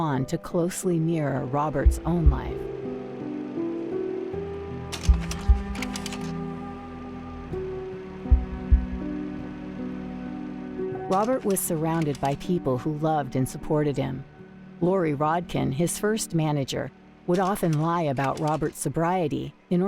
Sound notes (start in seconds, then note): 3.3 film clicks; 3.3 melancholy music continues